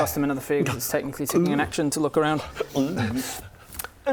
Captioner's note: gulp